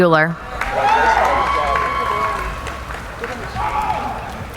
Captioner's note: cheering